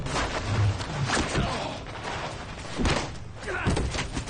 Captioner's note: grunting